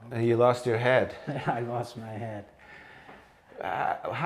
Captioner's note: laugh